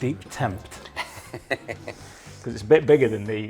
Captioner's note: shopkeeper chuckles